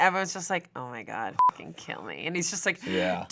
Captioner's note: beep